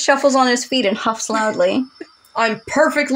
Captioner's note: giggle